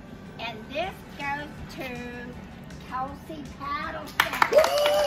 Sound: applause

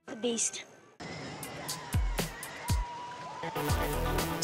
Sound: people screaming; upbeat music

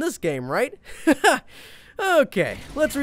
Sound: laughs

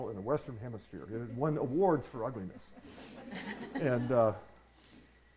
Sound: audience laughing

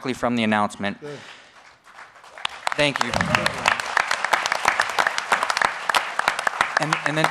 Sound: applause

